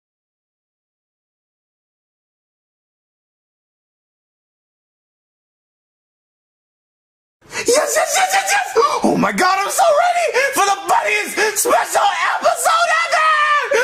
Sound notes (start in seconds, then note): 10.3 gasps